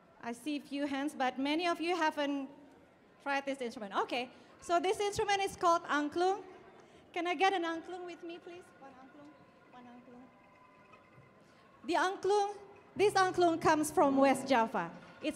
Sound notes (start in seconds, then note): none